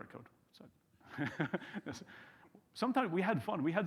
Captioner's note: chuckles